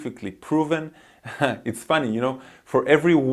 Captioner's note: laughs